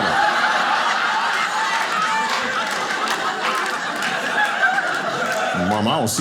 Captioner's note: audience laughing